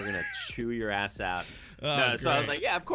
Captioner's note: laughs